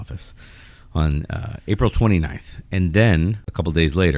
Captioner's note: uh